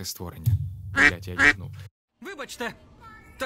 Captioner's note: microphone fell